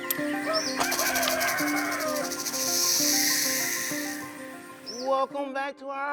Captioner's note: rooster crows; snake hisses